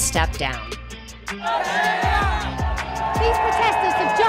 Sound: cheering

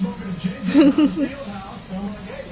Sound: laughs

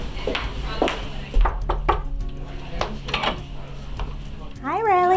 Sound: heels clicking; knocking

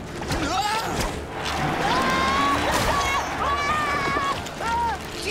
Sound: screaming

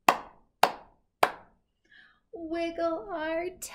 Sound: clapping

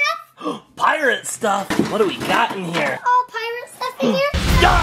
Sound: gasp

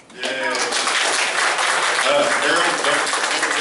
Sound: applause

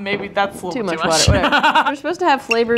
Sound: laughing

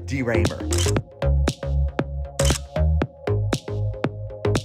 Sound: camera clicks

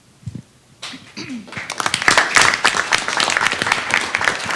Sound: applause

